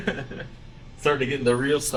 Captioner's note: laughs